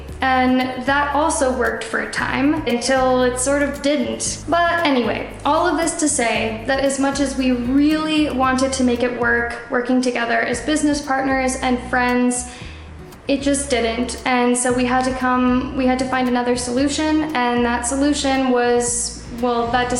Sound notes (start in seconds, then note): none